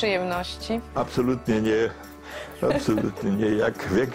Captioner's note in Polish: Śmieje się